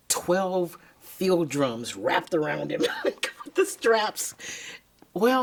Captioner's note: laughs